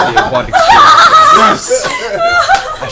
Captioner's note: laughter